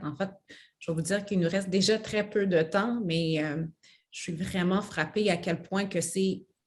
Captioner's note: speaks French